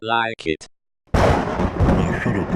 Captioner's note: thunderclap